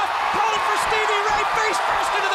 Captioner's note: crowd cheering